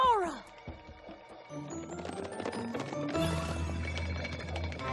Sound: rattle!

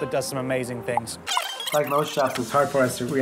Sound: squeaking

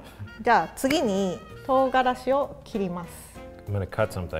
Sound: speaks in foreign language

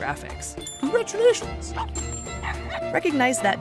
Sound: dog barking

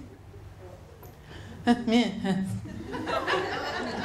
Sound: mutters again

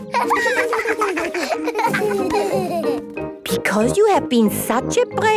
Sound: laughter

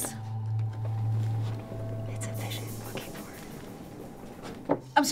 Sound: whispering

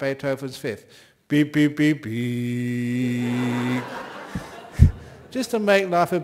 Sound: laughter

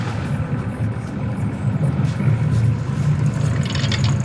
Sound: engine roaring

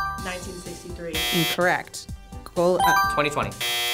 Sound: buzzer chimes; buzzer blares; buzzer blares

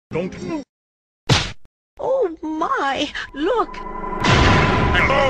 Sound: hit sound; magical whoosh, thunder clap

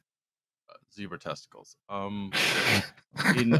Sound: laughter

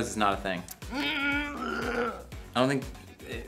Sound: groaning

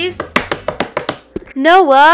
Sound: drum roll on table

